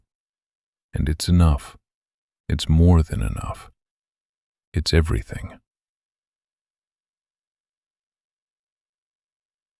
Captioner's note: long pause